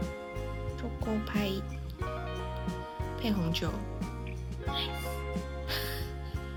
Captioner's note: laughs